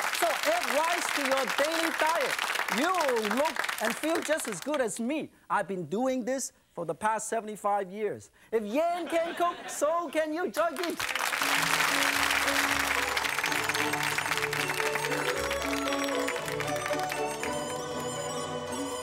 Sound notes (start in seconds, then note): 8.9 audience laughing; 11.1 joyful music; 11.3 audience clapping